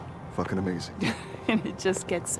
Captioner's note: Marsha chuckles